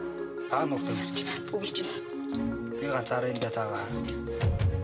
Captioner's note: foreign spoken audio